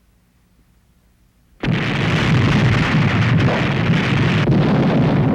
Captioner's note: explosions